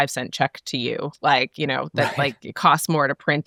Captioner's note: chuckles